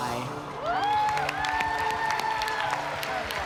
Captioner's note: cheering and applause